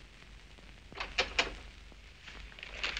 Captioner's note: door opening